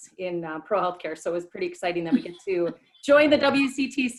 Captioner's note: laughter